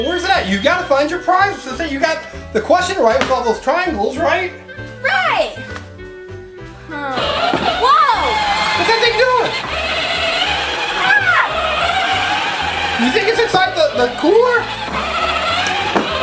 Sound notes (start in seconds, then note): 7.5 toy car revving